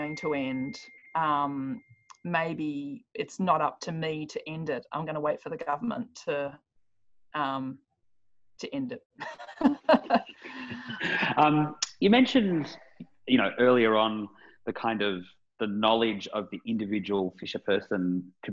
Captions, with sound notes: Was going to end. Maybe it's not up to me to end it. I'm gonna wait for the government to end it.(laughs) - You mentioned earlier on the knowledge of the individual fisherperson,